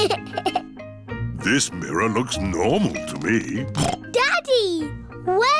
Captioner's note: giggles; snorts